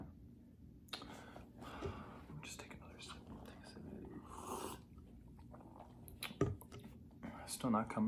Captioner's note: whispering